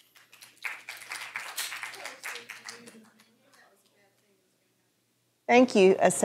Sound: applause

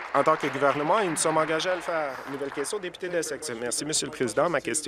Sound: applause

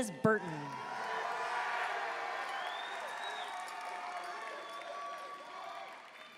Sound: audience cheering and applauding

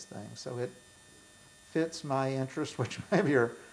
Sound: laughs

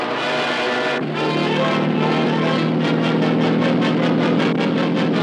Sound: motor roaring

